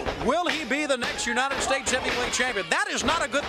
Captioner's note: crowd cheering